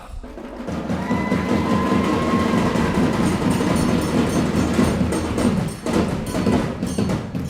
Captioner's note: celebration happening